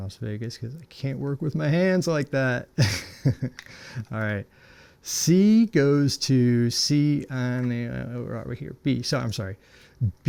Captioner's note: laughing